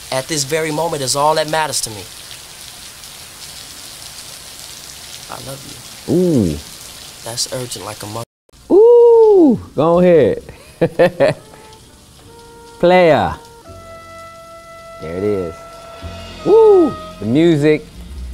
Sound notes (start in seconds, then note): 10.5 Larenz chuckles; 13.5 romantic music